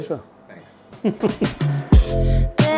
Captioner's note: laughing; upbeat music